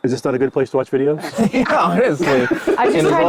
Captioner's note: group laughs